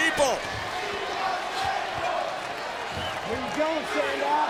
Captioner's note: audience chanting